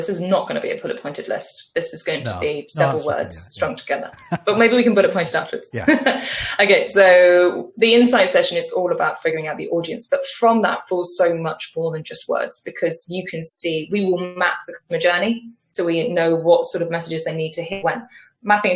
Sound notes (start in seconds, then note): 4.1 laughs